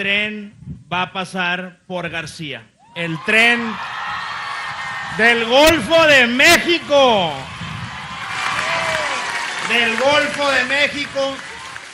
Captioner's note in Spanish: aplausos